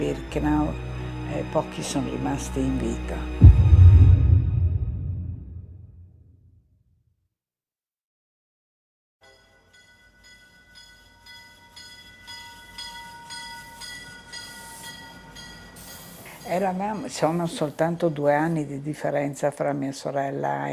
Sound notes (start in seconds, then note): 8.8 bells tolling; 16.1 speaking in foreign language